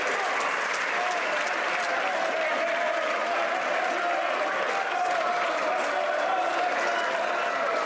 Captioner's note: some Applause